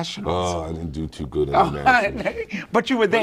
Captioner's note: laughs